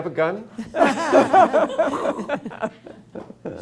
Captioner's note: laughter